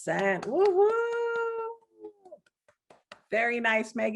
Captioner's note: exults